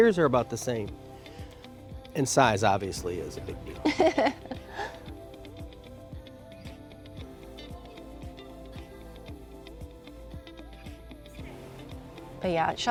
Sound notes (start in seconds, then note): 3.4 laughs